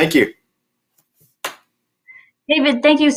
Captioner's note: claps